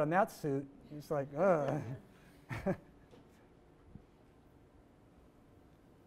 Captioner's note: laughs